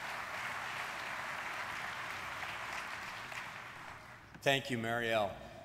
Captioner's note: audience applauding